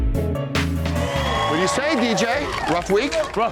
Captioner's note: upbeat music; crowd cheering